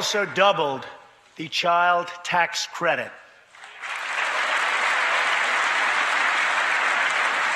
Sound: applause

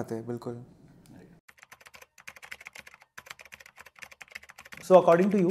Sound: typing

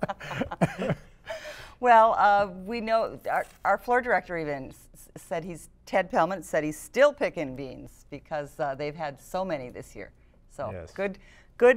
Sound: laughter

